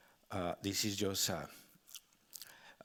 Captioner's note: speaking Spanish